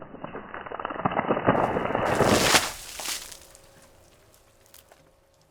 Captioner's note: water splashes